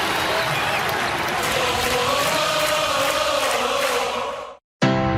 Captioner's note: crowd cheering